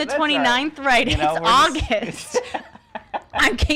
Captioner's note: laughing